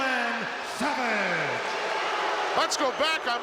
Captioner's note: crowd boos